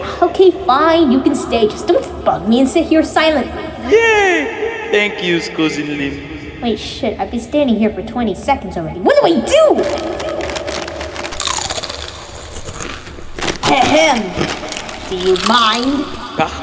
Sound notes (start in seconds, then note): 9.4 loud rustling and chewing